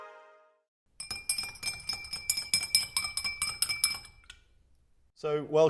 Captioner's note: spoon mixing in glass